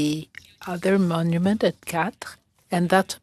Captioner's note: speaking French